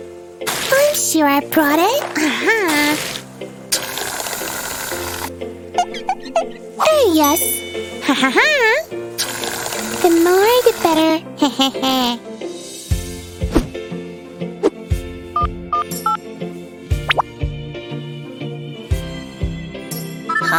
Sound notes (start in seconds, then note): 0.8 sniffling; 3.8 snoring